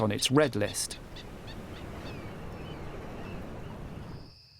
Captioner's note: birds squawking